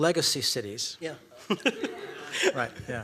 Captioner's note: laughter